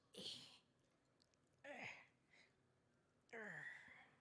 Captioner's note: grunts